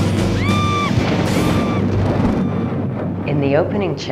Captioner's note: screaming